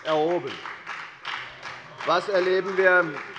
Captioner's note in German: Beifall bei der FDP - Zuruf von dem BÜNDNIS 90/DIE GRÜNEN